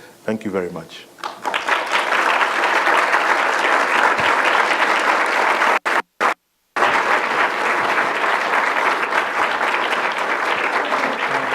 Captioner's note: applause